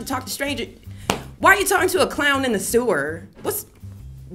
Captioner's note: foot stomp